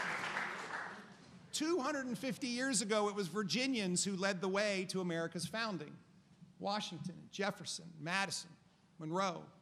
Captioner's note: applause